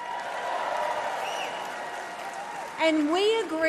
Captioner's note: crowd cheers